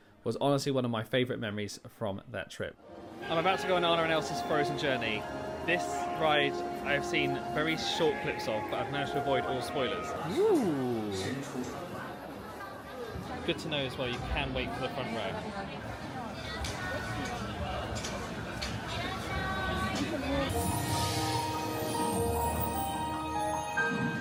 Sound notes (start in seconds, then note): 16.6 diners murmur; 20.5 magical music